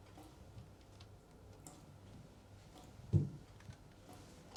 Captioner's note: water dripping continues